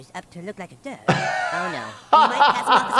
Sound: laughing

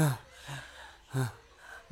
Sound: sighs

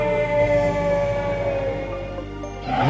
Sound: parasaurolophus screeching

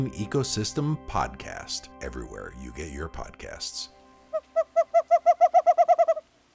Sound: western Screech Owl calls

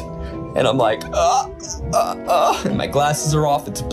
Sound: groans

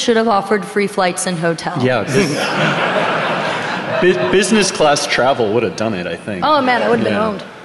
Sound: laughing

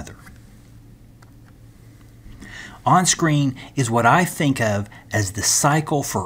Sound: turn page

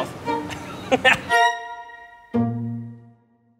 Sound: laughs

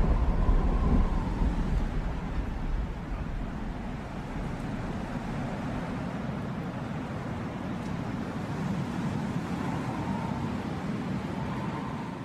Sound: heavy Wind Sound

